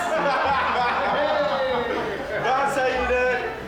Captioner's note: William laughing